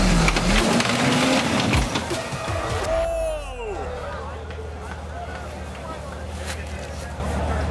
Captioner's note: cheering